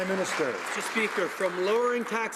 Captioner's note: some Applause